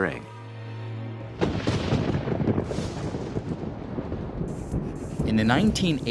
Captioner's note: thunder crashing